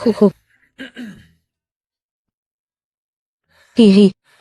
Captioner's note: hắng giọng